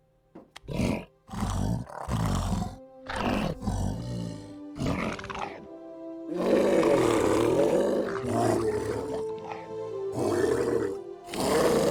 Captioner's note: intensely moving speech in his native tongue